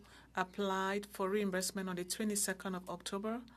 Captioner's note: speaking French